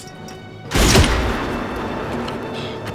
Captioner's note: gunshot